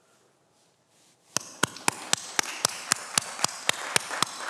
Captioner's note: everyone applauds